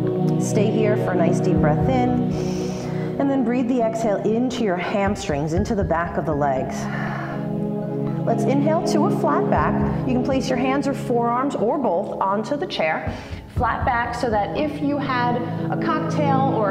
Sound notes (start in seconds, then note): 2.3 inhale; 7.5 exhale